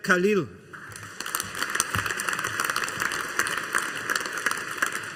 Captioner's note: audience applauding